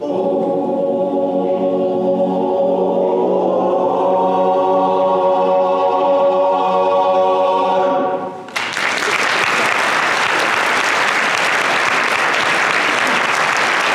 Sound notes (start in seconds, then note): 8.4 applause